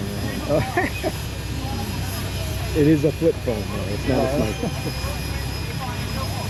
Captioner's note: laughing